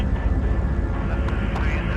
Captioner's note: airplane engine rumbling